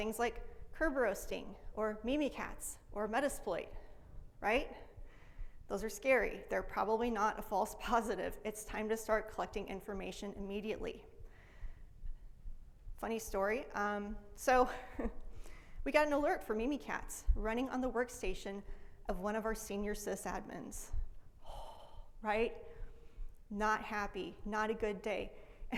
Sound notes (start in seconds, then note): 14.6 laughs